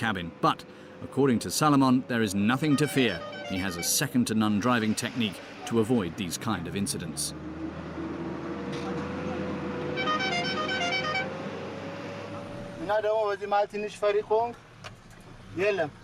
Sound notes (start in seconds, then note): 7.3 truck throttling; 9.8 truck hooting; 12.7 speaking in foreign